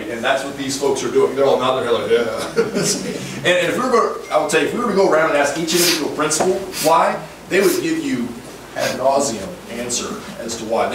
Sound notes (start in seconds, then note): 2.3 laughs